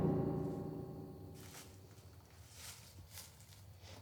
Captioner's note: leaves rustle